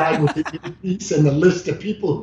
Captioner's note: laughing